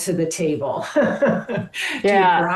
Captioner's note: chuckles